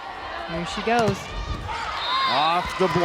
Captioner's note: whistle blows